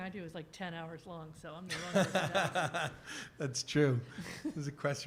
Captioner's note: laughter